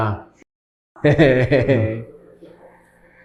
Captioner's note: chuckles